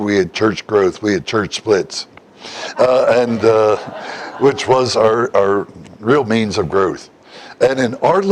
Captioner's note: Смех